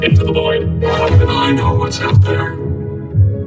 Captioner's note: spooky voice